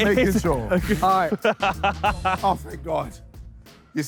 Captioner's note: laughs